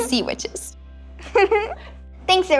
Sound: girls giggle

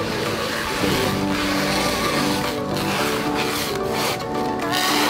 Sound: wrapping plastic

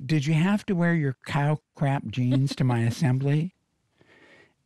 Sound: robin laughs

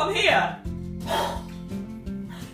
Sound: gasps

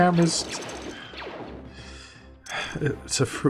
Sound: sighs

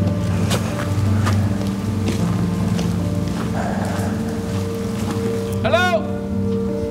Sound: somber music; truck doors bang

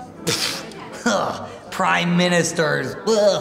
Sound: laughs

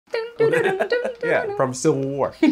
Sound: humming

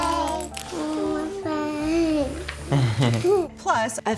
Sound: laughs

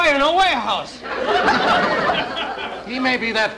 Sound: audience Laughing

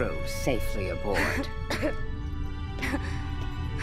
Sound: coughing

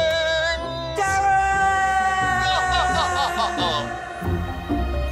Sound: laughs

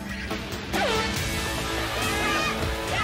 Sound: suspenseful music; horn blast; cheering; exciting music

